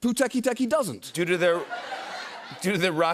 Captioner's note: laughter